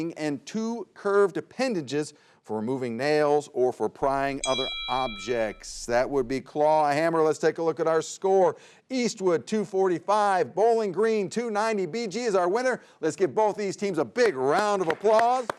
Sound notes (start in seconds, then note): 4.0 bell clangs